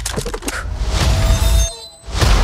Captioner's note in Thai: ตูม